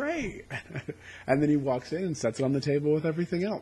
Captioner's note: chuckles